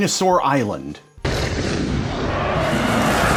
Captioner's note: Dino roars, suspenseful music